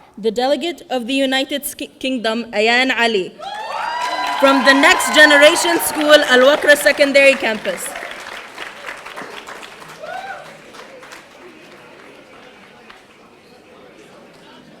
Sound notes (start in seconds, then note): 3.2 audience cheering; 8.2 audience applauding